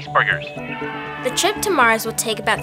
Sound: cheering

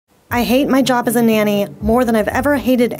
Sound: voiceover

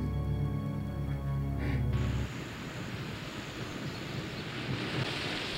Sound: water running

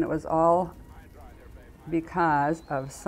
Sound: voices on communications equipment

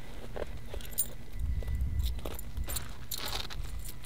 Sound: coins jingle

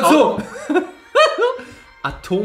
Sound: laughs

